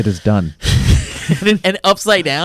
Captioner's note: laughs